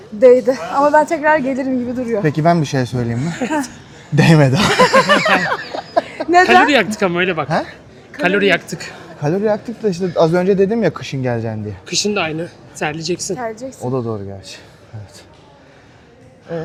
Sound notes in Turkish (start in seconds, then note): 4.5 kahkaha